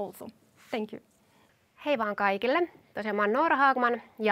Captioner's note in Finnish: suomeksi